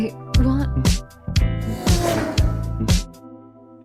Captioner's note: Bus zooms to SeaBreeze High